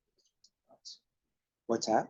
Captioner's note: speaks faintly